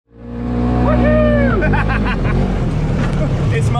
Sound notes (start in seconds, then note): 0.1 car engine revving; 1.4 laughing